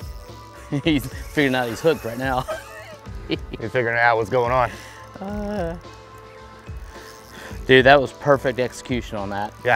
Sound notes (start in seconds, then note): 0.6 chuckles